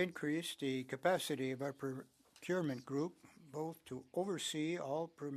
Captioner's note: speaking French